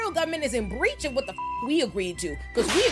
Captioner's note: beep